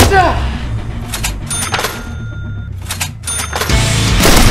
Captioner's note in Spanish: sonido de caja resgistradora